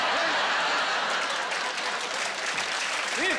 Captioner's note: laughing